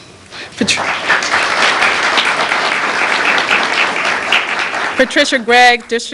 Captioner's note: applause